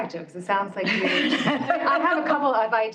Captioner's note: laughter